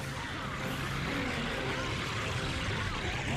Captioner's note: snarling